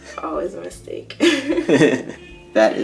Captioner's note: laughter